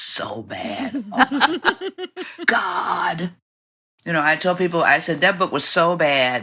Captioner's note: laughter